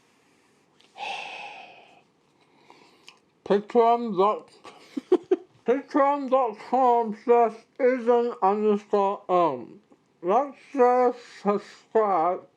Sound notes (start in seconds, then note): 4.6 laughs